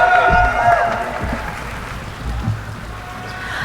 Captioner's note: cheering